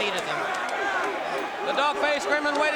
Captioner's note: crowd cheering